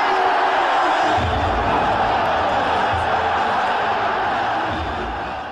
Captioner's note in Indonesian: Tepuk tangan